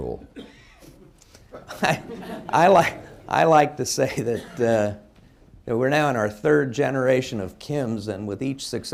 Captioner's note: laughs, laughter